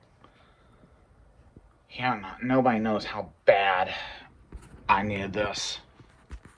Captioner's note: none